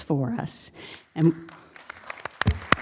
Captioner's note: applause